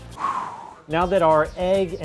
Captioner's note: exhales